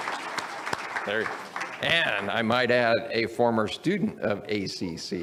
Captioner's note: audience applauds